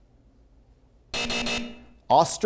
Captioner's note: heavy buzzing